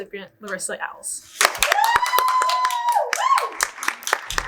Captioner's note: audience cheer